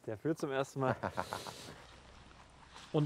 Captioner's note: laughs